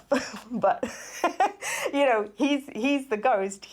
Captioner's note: narrator laughs